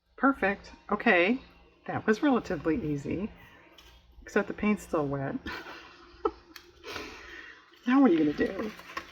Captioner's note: laughs